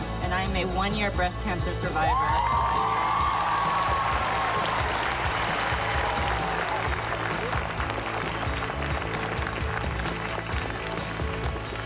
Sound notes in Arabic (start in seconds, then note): 2.8 هتاف; 9.7 موسيقى حية